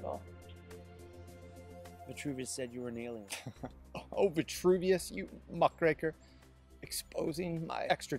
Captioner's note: haha